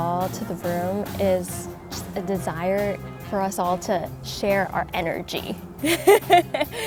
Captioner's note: chuckles